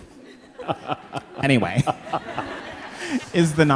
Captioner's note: all laughing